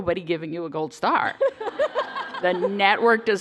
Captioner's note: laughter